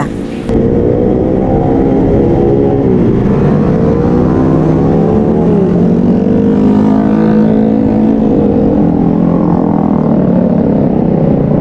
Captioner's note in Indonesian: suara sepeda motor